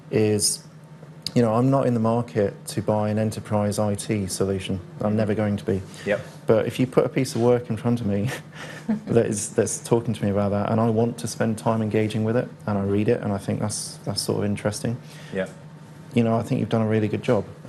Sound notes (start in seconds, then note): 8.2 laugh